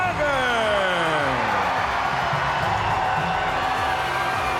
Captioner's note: crowd cheering